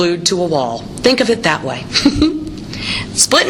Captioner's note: chuckles